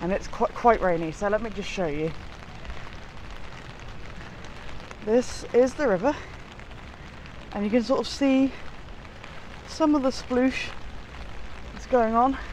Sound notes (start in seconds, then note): 2.1 rain falling